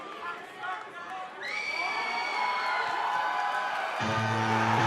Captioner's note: cheers and applause